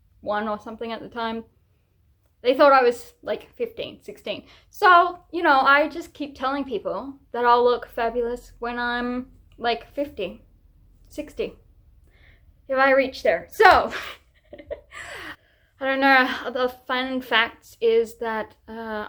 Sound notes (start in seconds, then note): 14.5 laughs through the pain